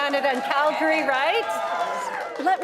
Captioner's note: audience applauding; audience cheering